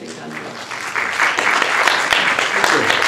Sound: applause

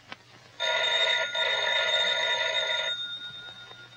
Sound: phone ringing

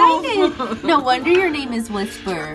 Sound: laughs

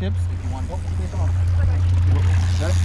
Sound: reel spinning

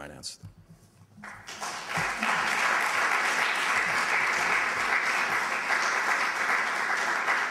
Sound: applause

